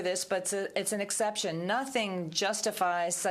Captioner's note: speaking french